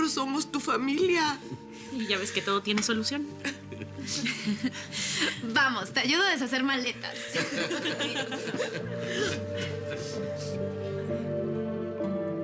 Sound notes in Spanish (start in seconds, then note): 8.7 Risas